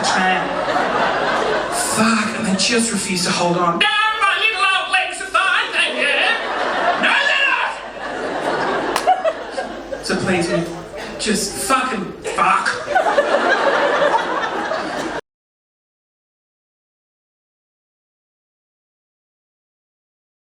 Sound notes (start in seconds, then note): 0.0 audience laughing; 3.7 mimics elderly voice; 5.5 audience laughing; 7.6 yells in normal voice; 9.6 audience laughing; 11.8 audience laughing